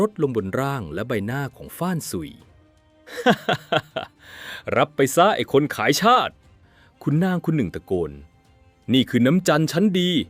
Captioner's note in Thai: เสียงหัวเราะ